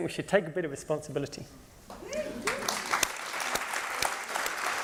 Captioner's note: applause